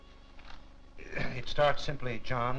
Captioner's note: clearing throat